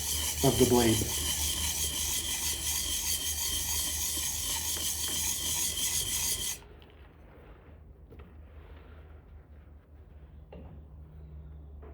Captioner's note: drilling